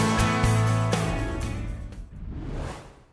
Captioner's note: whoosh